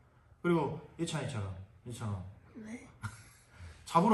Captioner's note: instructor laughs